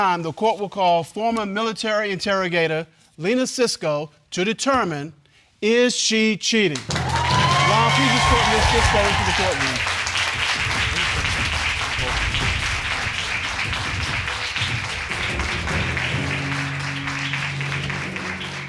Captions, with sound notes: At this time, the court will call former military interrogator, Lena Sisco, to determine is she cheating? Ron, please escort Ms. Sisco into the court room. (AUDIENCE APPLAUDING)